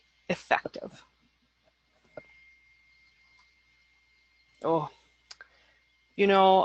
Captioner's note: silence